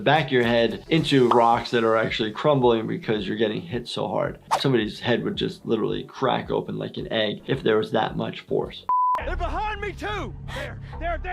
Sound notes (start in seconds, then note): 8.9 beep